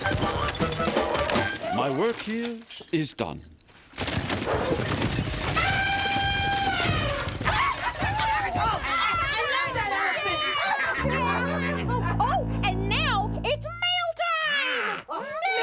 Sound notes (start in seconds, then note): 11.7 foghorn blows